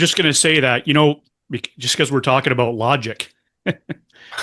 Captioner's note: laughter